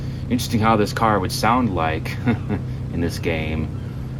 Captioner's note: chuckles